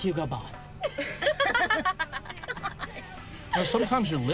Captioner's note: group laughs